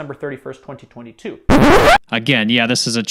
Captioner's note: record screeches